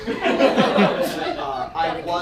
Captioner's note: audience laughs